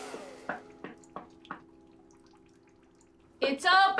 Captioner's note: door knocking